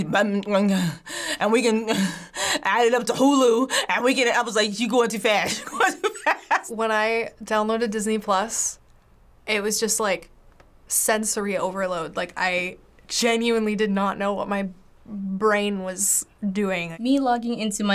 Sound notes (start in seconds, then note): 0.0 stuttering; 5.5 laughs